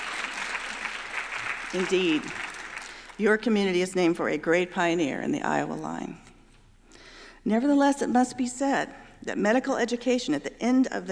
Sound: applause

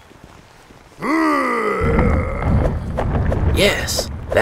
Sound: Goliath Growling; Goliath stomping

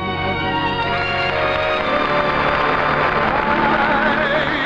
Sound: audience applauding

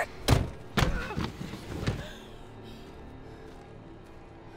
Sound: car door slamming

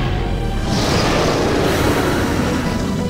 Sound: roars

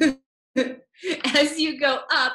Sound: laughs

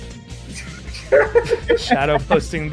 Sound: laughter

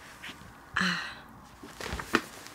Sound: breathes out

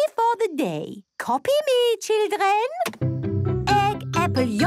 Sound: clicks; singing

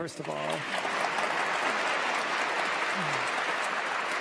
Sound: audience applauds

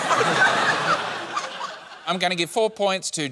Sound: laughter

